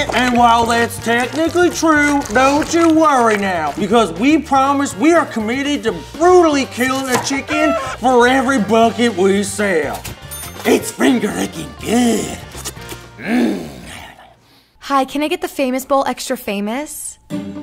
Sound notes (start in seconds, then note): 13.1 grunts